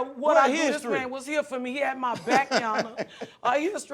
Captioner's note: chuckles